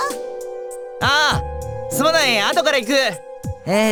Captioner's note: shout